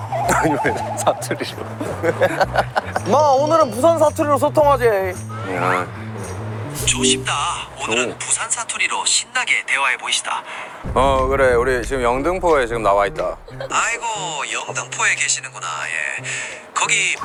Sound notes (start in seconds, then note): 0.2 native Speaker Chuckles; 10.8 pretentious Dialect